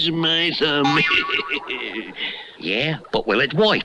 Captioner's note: Simon Bar Sinister Laughs